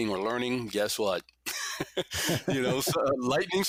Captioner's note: laughs gently